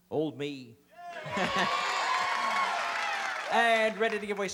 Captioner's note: laughs